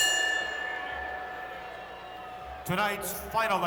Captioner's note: bell rings; crowd boos